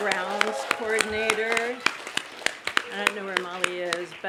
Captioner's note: applause